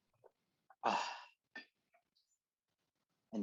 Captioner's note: happy sigh